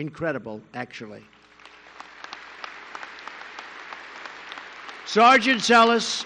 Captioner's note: applause